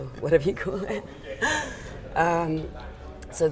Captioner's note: laughter